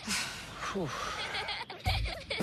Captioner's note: sighs